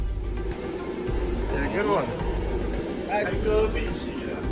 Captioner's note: man talking